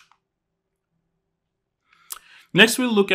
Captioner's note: remote clicking